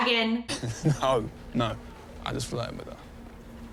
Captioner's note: chuckles